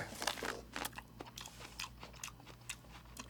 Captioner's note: wet mouth sounds